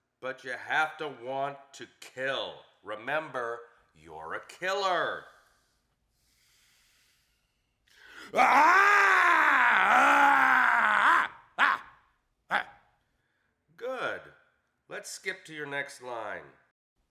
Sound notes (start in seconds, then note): 8.2 actor roars